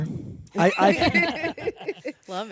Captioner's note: all laugh